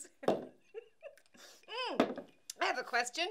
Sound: laughing

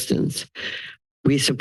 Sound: inhales

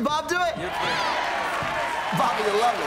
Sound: cheers and applause

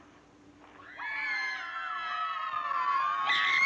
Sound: screaming

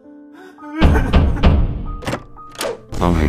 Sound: whimpering; knock

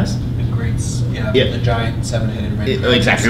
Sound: student off mic

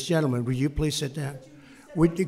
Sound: off-mic

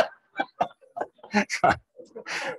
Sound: laughter

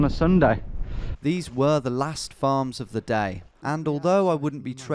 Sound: voiceover

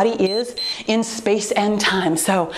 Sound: timer beeps

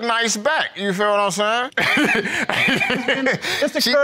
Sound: laughing

